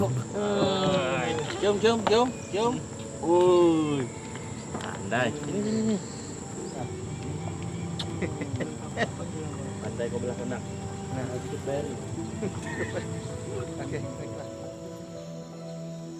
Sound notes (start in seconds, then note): 4.7 indistinct chatter; 7.9 man chuckles